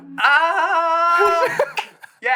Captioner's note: chuckles